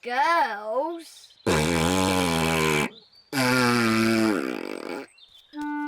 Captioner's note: blows raspberry